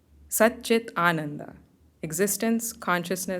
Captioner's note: hindi